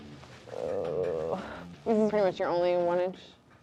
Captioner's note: groans